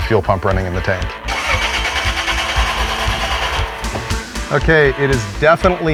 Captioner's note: engine trying to turn over